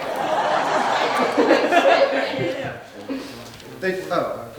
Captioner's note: audience laughing